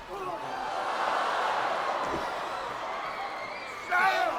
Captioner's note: crowd gasps